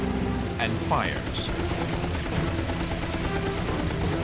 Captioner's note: gunshots